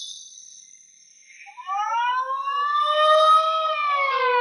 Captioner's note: siren wailing